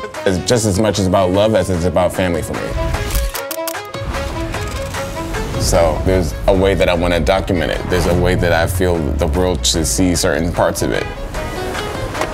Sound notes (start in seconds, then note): 3.0 camera shuttering